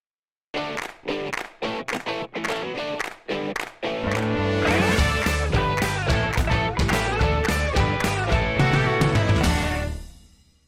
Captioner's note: claps